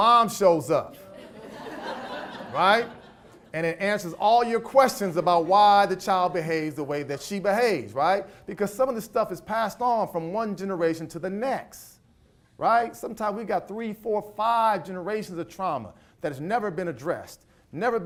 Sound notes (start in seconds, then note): 1.0 audience laughs